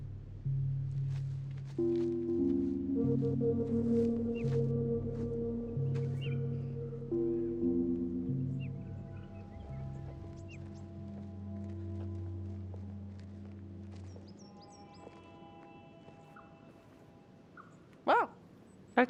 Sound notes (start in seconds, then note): 1.1 ominous music continues; 9.3 birds singing